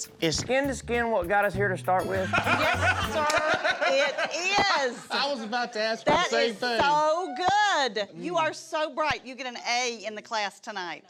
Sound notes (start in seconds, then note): 2.2 everyone laughing